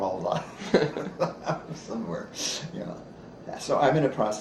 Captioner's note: laughs